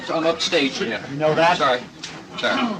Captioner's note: laughing